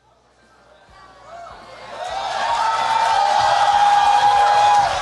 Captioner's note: cheering